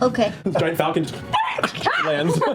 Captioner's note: screeches